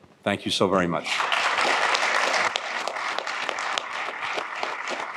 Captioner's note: applause